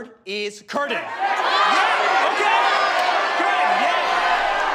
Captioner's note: people shouting